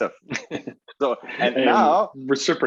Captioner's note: laughs